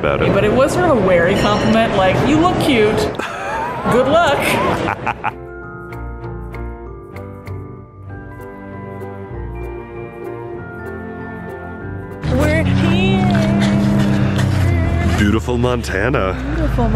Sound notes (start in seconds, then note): 4.4 laughing; 5.8 soft music